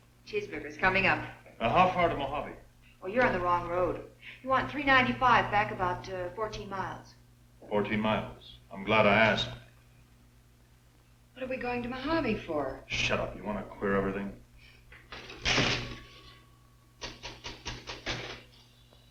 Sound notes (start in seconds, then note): 15.6 ball banging